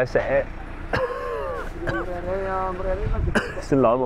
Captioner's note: coughing